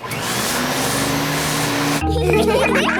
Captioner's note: whirring; all laughing